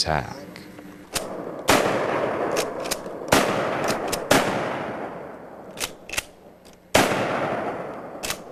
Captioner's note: gunshots